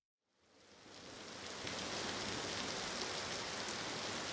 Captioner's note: rainfall